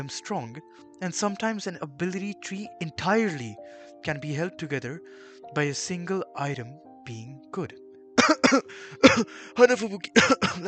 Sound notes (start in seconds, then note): 8.2 cough cough